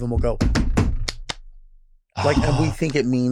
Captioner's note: Delta clapping